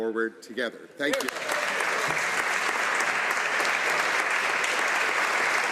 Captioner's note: speaking korean